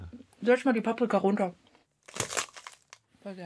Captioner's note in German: Knacken